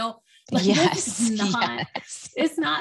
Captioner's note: chuckles